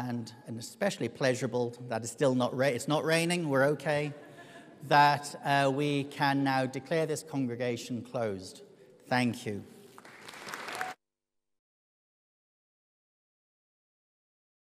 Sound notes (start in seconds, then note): 9.9 audience applauds